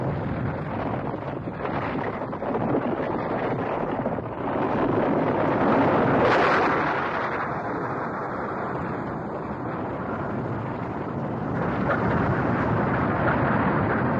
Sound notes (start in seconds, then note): 0.1 rocks falling; 7.5 volcano erupting